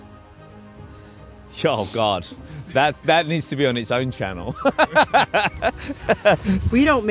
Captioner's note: laughs